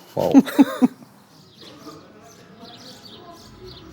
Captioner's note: birds chirp